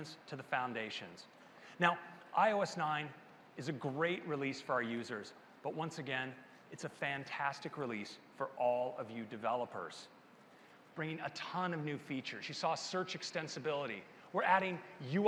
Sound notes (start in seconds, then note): none